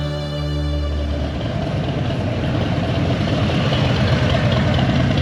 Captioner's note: motorcycle engine running